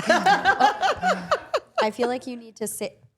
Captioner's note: all laughing